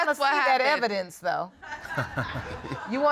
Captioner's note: all laughing